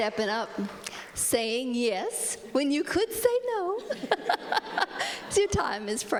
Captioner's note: laughs